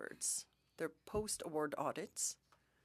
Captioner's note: speaking French